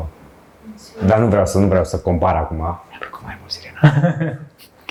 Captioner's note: whisper